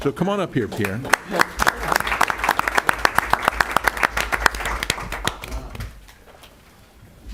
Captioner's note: applause